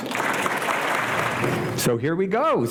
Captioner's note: applause